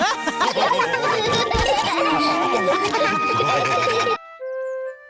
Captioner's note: all laugh